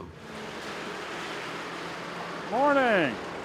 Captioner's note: engine hums